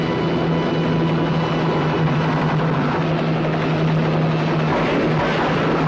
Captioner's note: helicopter roaring; truck engine whirring; gunshots popping